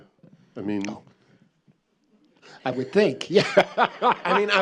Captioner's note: laughs